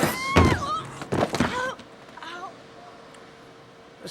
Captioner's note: woman thuds